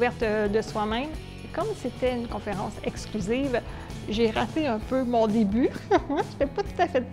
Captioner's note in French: rire